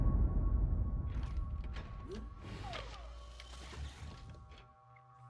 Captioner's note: Kellogg's limbs whirring